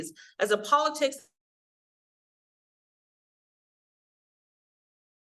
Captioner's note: audio cuts out